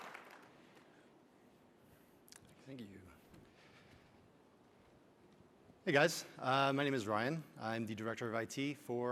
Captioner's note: applause